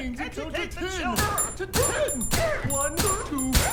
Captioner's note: gunshots bang